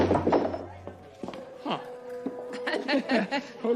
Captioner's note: both chuckle